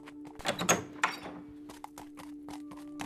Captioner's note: door opens